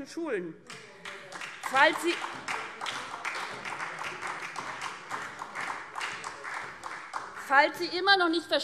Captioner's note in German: Beifall SPD